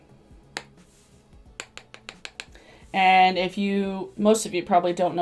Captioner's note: brush tapping